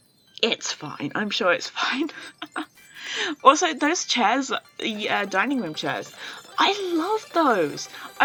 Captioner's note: laughs